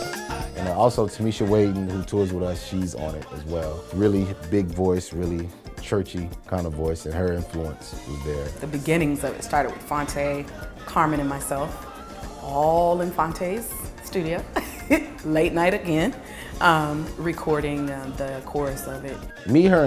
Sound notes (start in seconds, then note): 14.8 laughs